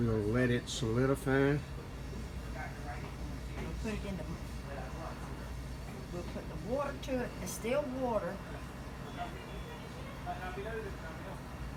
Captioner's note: background chatter